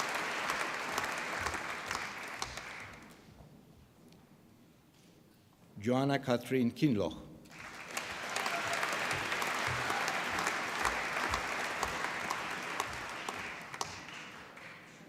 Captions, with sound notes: Joanne Catherine Kinloch. (APPLAUSE)